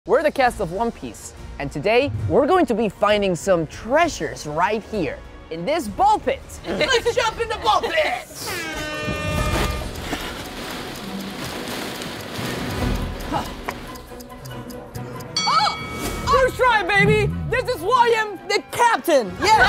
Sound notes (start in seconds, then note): 0.7 adventurous music; 8.4 air horn blows; 9.4 intense music; 9.6 clock ticking; 15.3 bell dings